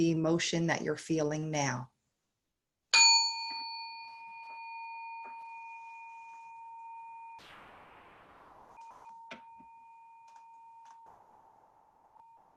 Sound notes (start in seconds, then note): 3.0 bell clangs once and fades